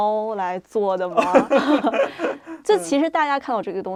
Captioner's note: both laugh